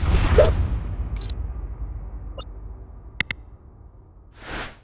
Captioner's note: drum music; logo whooshing; electronic beeping